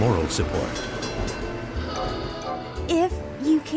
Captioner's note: train bell rings and car honks